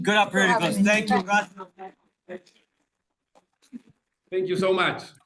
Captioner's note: all applauding